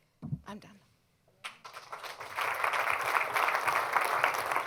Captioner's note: applause